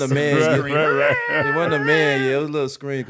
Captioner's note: falsetto screaming